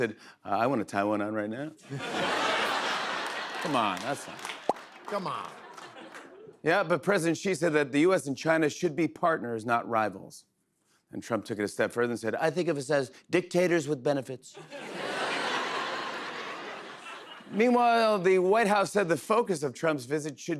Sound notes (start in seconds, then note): 1.8 laughter; 12.5 As Trump; 14.6 laughter